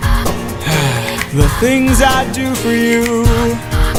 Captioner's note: sigh